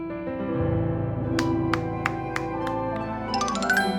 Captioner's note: clap clap clap…